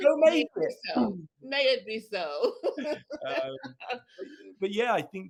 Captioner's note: laughs